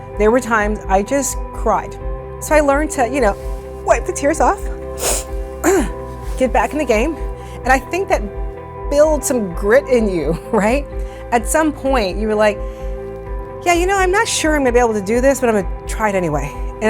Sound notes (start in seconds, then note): 4.7 sniffling